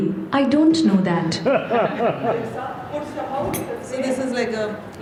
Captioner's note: laughter